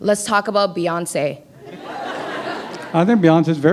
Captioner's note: laughter